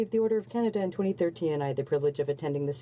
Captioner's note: speaking French